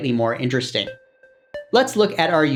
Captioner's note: sound effect